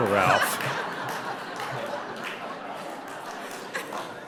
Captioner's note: audience laughing